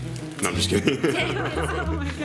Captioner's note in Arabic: ضحك